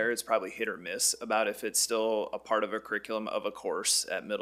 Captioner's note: none